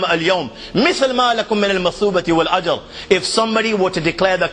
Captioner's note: আরবী